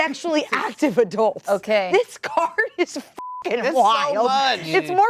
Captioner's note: beep